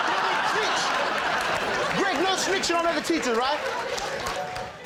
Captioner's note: laughter